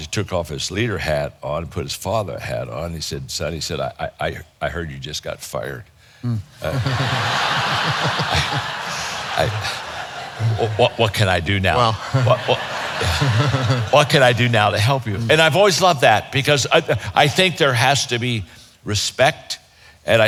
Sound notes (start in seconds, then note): 6.6 audience laughing